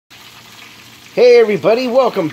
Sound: oil sizzling

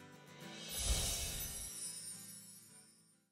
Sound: twinkling

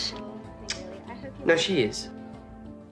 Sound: clicks tongue

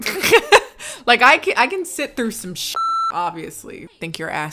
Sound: laughing; beep

